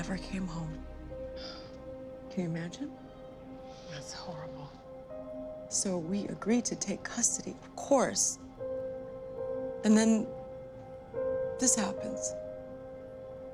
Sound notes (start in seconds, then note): none